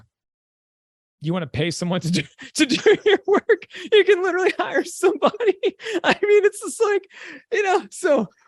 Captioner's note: chuckle